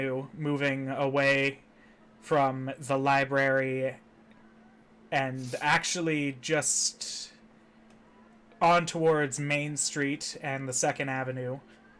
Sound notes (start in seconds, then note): none